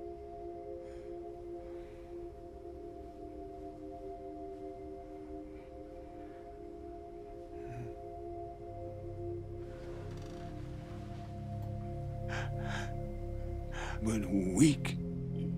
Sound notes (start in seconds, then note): 11.9 breathing shallowly